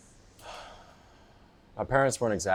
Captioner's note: Bob sighs